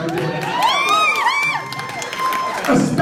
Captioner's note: cheering and whooping